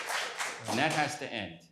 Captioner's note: applause